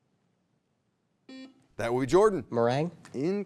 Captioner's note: buzzer beeps